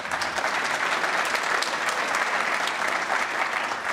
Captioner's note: applause